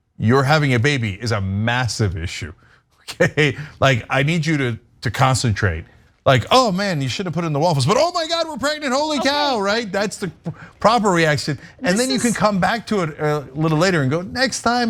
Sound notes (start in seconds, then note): 3.3 laugh